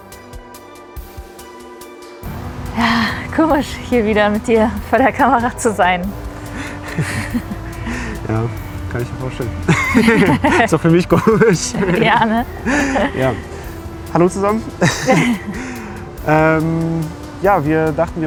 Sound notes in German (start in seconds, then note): 6.7 gelächter